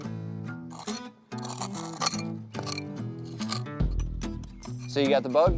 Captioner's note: metal scratching